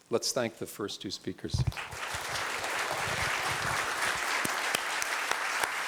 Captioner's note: applause